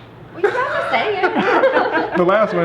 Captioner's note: everyone laughs